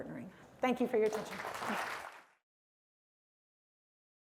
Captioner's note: applause